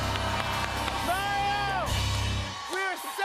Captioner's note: cheers and applause